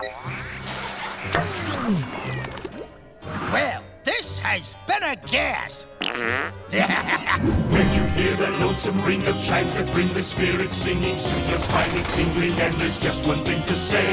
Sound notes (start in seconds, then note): 6.0 farting; 6.0 laughing